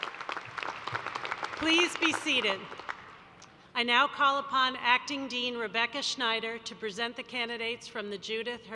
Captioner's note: applause